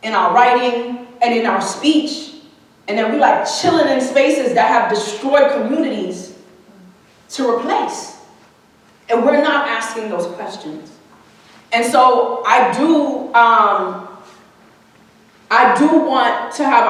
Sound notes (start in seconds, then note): none